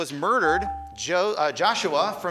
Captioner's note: buzzer chimes